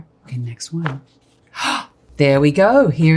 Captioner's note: gasps